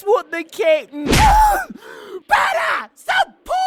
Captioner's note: wailing